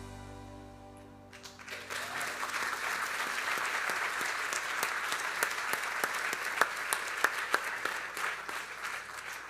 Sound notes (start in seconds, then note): 1.3 audience applauding